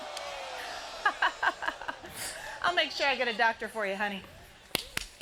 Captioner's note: laughs